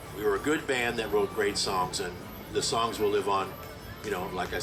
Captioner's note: none